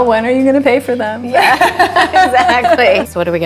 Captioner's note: laughing